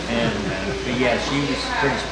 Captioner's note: laughing